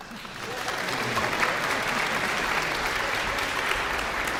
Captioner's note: audience applauding